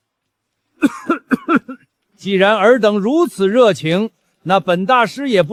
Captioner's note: cough